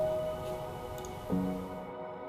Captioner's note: footsteps